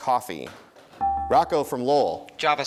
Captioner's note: dinging